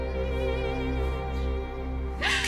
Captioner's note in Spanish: Sollozos